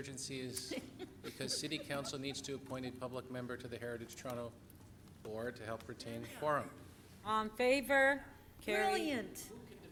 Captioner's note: off microphone